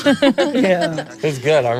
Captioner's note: everyone laughs